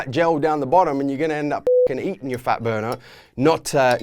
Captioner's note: beep